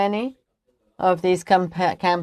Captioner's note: speaking French